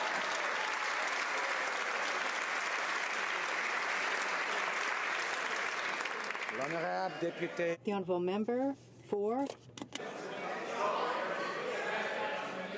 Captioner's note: some Applause